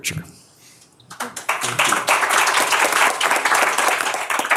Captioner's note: applause